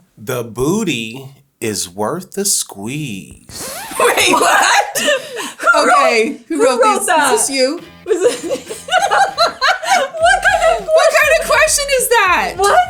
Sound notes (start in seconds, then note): 8.0 both laughing